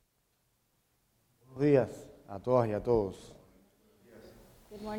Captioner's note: speaking in Spanish